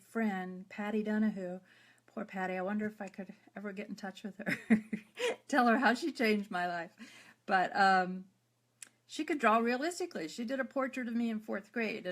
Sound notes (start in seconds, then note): 4.5 laughs